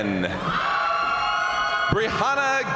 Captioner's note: crowd cheering; crowd applauding